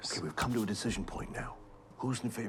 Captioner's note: whispering